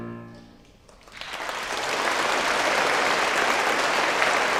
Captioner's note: audience applauding